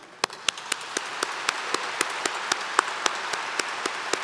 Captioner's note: applause